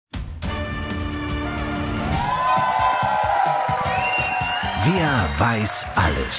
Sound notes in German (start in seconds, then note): 0.2 Dynamische Musik; 1.6 Jubel, Applaus